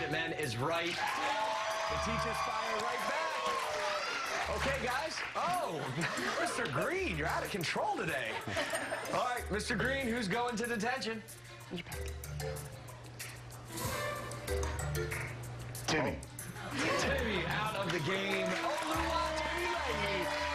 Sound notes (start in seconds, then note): 3.8 cheers and applause